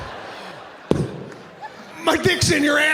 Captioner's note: Sebastian smacks mic